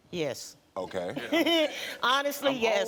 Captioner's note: laughs